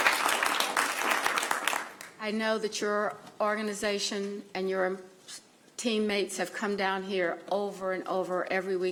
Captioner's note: applause